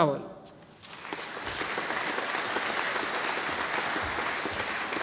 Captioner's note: audience applauding